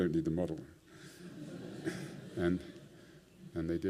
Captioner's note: laughter